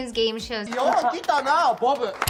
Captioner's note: speaking Japanese